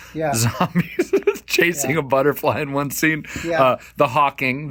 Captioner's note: laughing